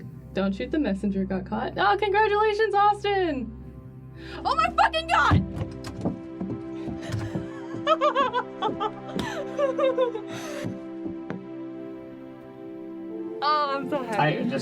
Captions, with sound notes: "Don't Shoot the Messenger" got... Oh, congratulations, Austin! Oh my fucking god!! (giggles hysterically) Oh I'm so happy.